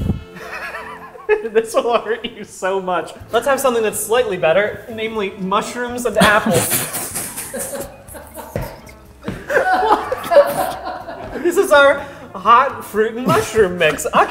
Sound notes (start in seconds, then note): 0.3 laughing; 6.9 everyone laughing